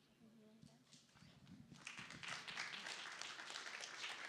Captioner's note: applause